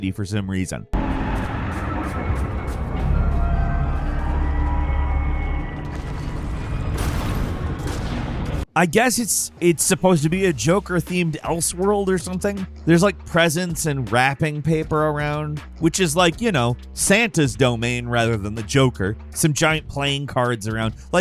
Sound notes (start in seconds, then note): 0.9 ominous whimsical music; 5.8 gunshots booming